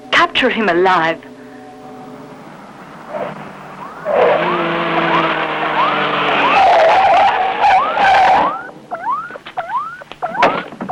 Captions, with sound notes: Capture him alive. (engine rumbles) (tires squealing) (electronic beeping)